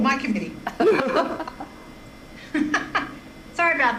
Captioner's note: group laughing